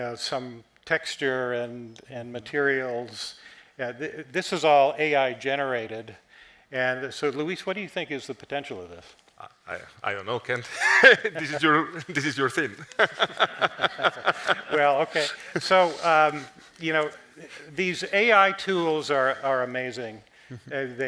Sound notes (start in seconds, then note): 13.9 laughing